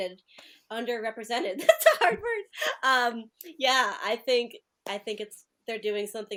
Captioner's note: laughter